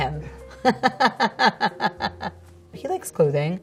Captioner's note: Scarlett laughs